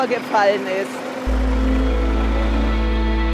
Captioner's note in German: Motorbrummen; Atmosphärische Musik